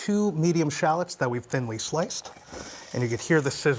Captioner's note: sizzling